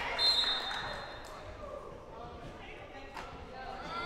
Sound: whistle blowing

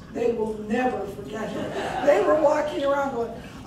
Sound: crowd laughing

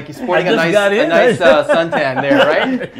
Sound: laughter

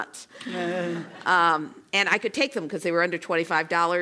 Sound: laugh

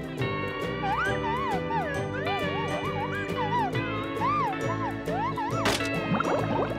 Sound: sliding

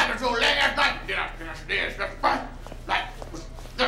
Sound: mumbling

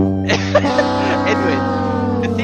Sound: both laughing; sad trombone

